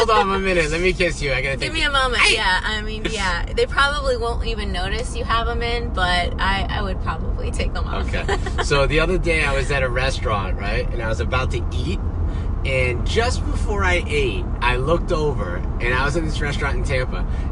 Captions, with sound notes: hold on one minute, let me kiss you, I gotta take- (yells) - Give me a moment, yeah. I mean yeah, they probably won't even notice you have 'em in but, I would probably take them off. - Okay. - So, the other day I was at a restaurant, right, and I was about to eat, and just before I ate, I looked over, and I was in this restaurant in Tampa,